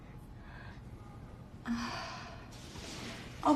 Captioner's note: sighing